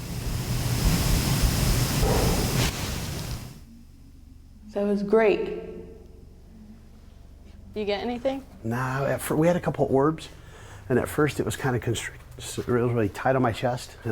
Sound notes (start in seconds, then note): 1.8 distant knock